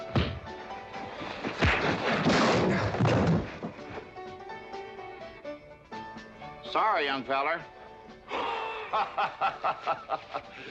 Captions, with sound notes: (loud crack & crash) (thump) Sorry, young feller. (laughing)